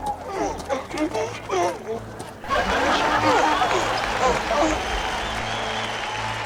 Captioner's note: rebuzno de los burros; multitud animando